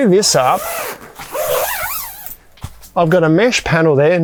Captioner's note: zipper squealing